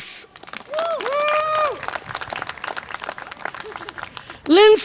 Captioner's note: audience applause and cheer